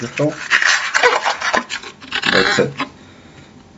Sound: balloon squeaking

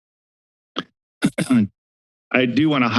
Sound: silence; clears throat

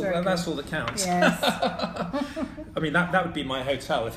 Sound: laughing

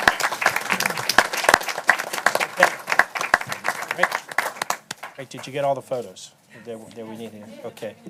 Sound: applause

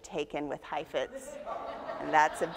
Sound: audience laughs

